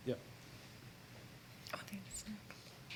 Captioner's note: whispering